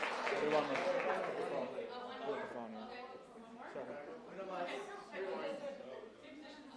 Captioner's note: applause